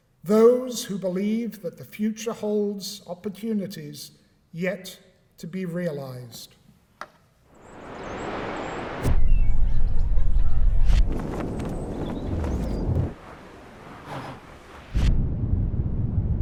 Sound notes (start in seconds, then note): 7.5 chirping; 7.7 waves crashing; 10.1 laughter; 11.1 birds; 13.2 splashing; 13.8 whoosh